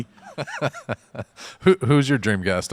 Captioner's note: laughs